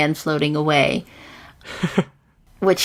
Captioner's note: laughs